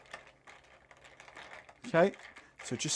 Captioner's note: ice clinking in glass